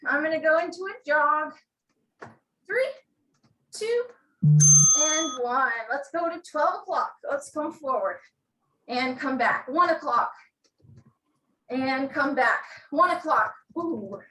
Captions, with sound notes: I'm going to go into a jog. Three, two. (bell rings) And one. Let's go to 12 o'clock, let's come forward. And come back. One o'clock. And come back. One o'clock.